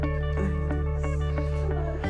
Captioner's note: whispering